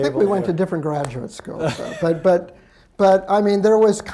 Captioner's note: laughs